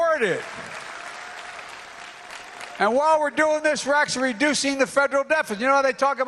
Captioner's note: applause